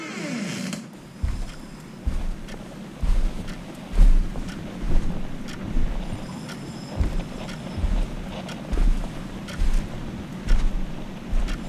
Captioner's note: turns doorknob, opens door, walks into Alastor's room fx; rain fx, ticking clock fx, Alastor sleeping soundly fx